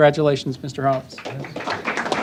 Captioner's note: applause